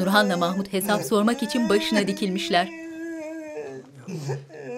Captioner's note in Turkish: Ağlama sesi